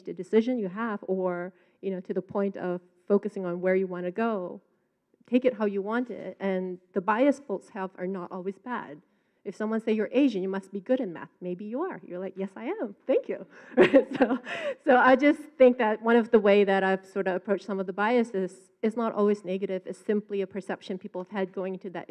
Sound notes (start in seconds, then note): 13.7 laughs